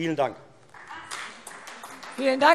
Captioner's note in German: Beifall Freie Demokraten und AfD